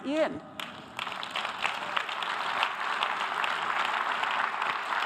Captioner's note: audience applause